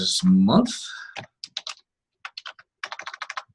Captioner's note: typing on keyboard